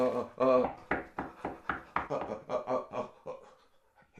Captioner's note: knock on door